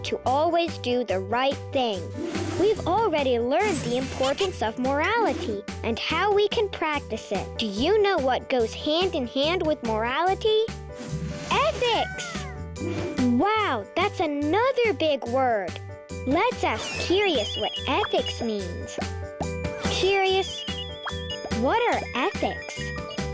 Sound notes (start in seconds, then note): 2.0 lively music; 2.1 air whooshing; 4.9 planet laughing and clinking; 11.0 air whooshing; 17.0 curious whirring; 19.8 curious beeping and popping